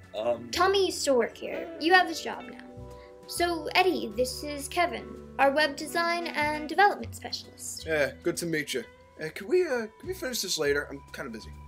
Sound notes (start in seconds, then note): none